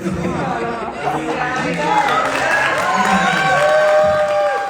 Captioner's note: audience cheering